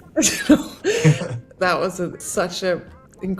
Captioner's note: both chuckling